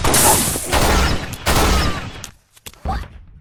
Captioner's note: screams in pain